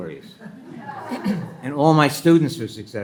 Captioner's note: attendees laughing; attendee clears throat